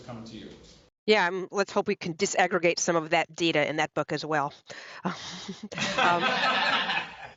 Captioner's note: laughter